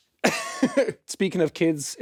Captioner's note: Jacksepticeye chuckling